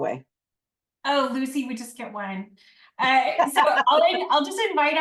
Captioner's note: laughs off-screen